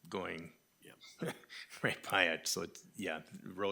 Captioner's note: laughing